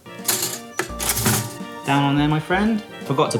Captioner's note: whimsical music; toaster rattles